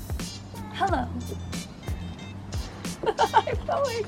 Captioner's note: instrumental Music; laughs